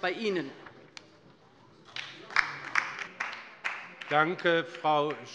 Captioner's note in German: Beifall bei der LINKEN